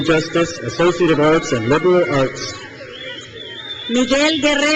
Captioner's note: crowd cheers